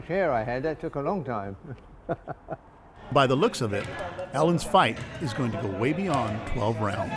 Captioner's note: laughs